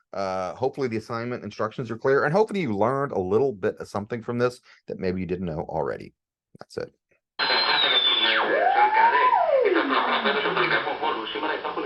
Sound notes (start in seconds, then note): 7.4 radio Sounds